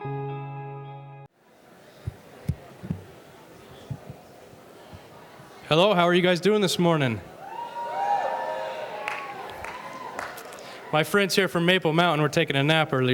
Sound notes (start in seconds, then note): 7.3 audience cheering